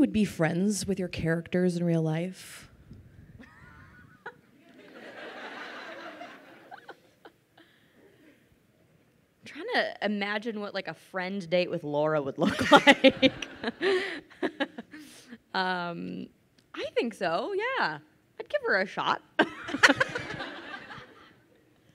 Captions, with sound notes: with your characters in real life? (crowd laughing) - I'm trying to imagine what like, a friend date with Laura would look like. (laughs) I think so, yeah, I'd give her a shot. (crowd laughing)